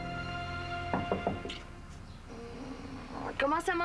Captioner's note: On frappe à la porte